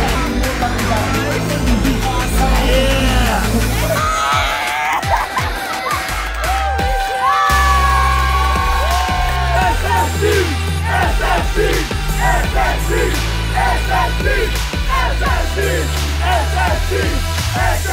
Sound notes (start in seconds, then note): 4.7 person laughing; 10.0 crowd